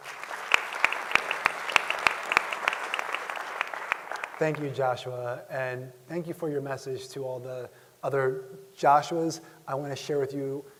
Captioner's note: applause